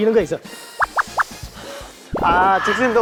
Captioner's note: continuing to hiss